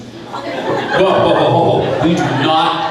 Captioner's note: crowd laughing